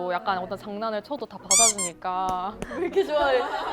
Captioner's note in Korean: 꺄르르